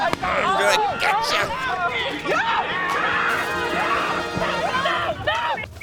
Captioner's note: campers exclaiming